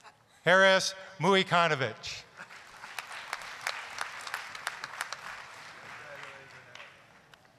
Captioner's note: applause